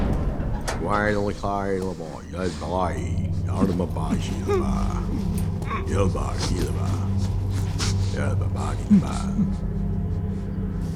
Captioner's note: foreign language